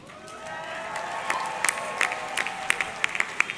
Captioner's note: audience cheering; audience clapping